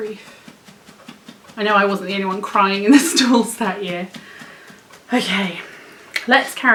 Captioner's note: sounds of dog panting in background